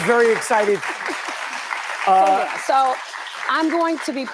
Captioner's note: laughs